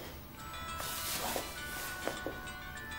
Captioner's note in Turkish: telefon çaliyor